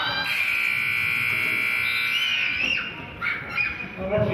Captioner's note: buzzer honks